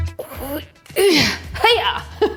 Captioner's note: upbeat music; grunting